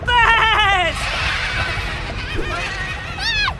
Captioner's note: menacing baas!